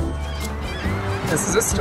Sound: seagull crying

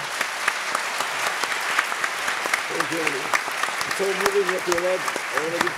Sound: applause

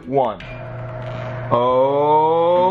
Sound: mechanical whirring

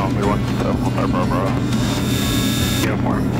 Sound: plane engine buzzing

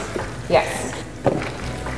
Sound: squelching

